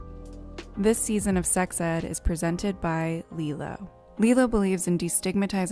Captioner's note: voiceover